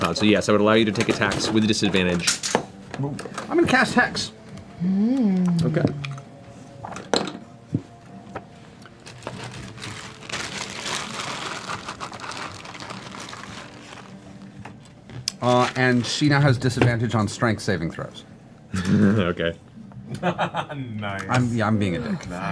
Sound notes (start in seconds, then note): 20.1 laughs